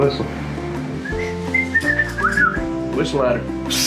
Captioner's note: whistling